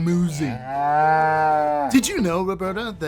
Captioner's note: cow moo